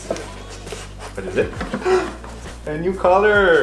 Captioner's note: gasps